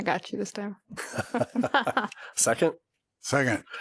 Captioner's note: laughter